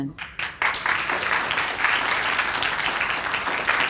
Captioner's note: applause